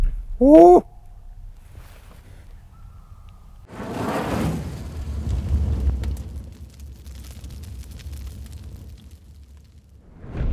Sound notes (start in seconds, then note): 0.4 female coyote hounds; 3.9 fire burning